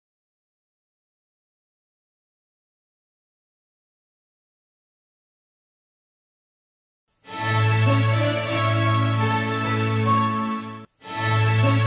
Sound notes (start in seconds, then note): 0.0 silence